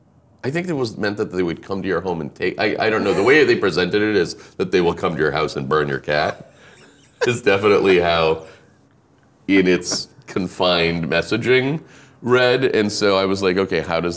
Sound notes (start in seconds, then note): 8.2 laughing